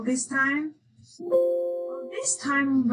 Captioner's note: computer chiming